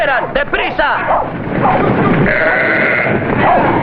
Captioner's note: bleating